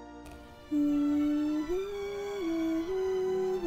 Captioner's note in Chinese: 唔知哼緊啲咩歌